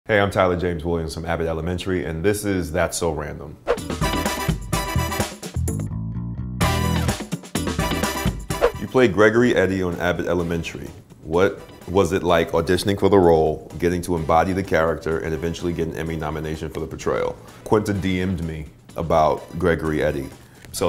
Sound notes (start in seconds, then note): 3.7 transition whooshes; 4.5 upbeat jazz music